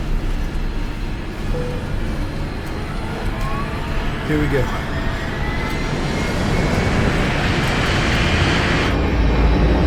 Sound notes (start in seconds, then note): 2.7 airplane whirring; 6.4 airplane engine roaring